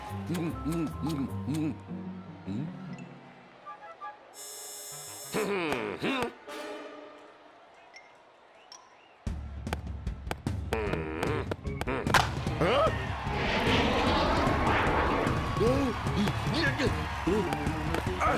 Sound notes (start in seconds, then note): 10.5 grunting; 15.5 gasping